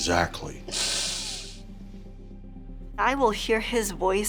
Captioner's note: sniffles